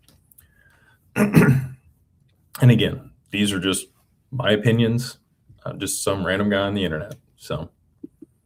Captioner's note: clears throat